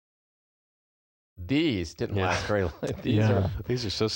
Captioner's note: laughter